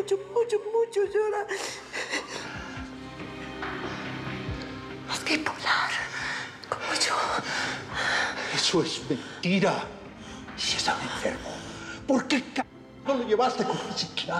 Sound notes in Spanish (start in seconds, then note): 5.0 susurra; 6.8 solloza